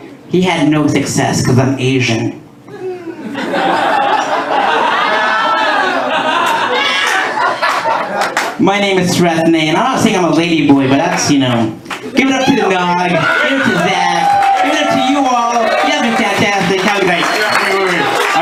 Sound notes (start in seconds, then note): 3.2 laughter and applause; 15.1 cheers and applause